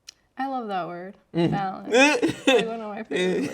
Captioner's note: laughing